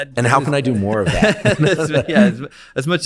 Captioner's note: both laughing